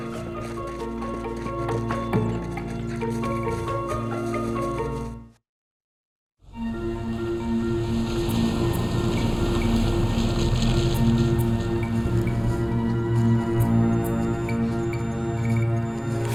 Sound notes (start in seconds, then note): 0.0 quirky suspenseful music; 6.7 car engine rumbling; 12.6 quirky suspenseful music